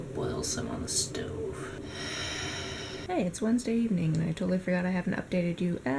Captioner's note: sighs